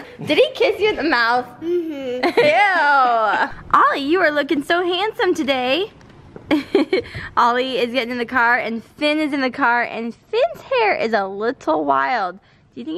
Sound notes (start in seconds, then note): 0.0 laughs; 6.8 laughs